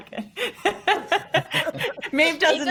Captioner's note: all laughing